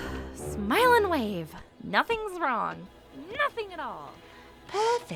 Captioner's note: takes a deep breath